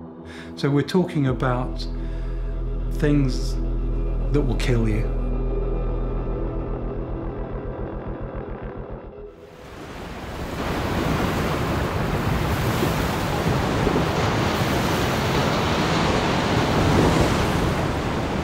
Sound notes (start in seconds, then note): 5.0 dramatic music; 9.6 waves crashing against the boat